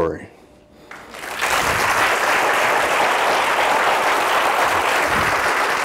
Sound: audience applauding

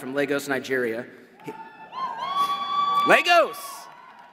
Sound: crowd cheers

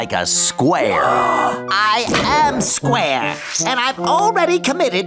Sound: gasping

